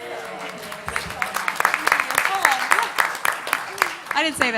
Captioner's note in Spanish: Aplausos